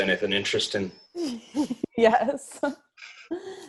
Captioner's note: laughs